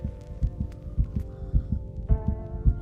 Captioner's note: heart beat